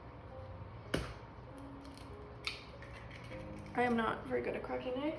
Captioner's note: egg cracking